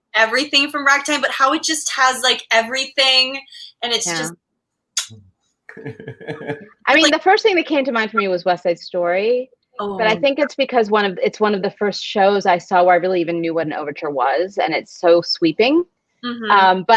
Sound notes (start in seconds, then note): 5.0 smooches; 5.7 laughs